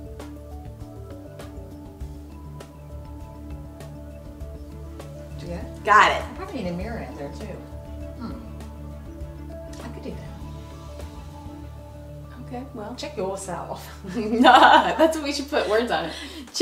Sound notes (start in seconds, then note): 14.0 both laugh